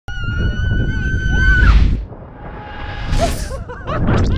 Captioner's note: girl screaming; wind whoosh; screaming